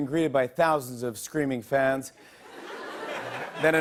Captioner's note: light laughter